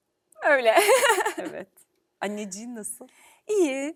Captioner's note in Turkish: kahkaha